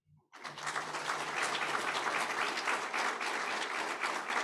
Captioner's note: audience applauding